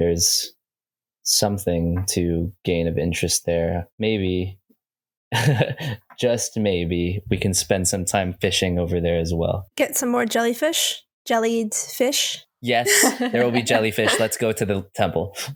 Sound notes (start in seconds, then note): 5.4 chuckles; 12.8 laughs